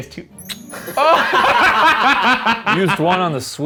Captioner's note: they laugh